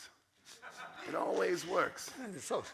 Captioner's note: audience laughs